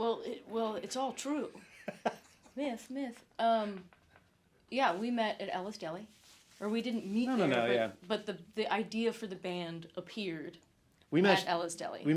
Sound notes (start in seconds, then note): 1.7 chuckles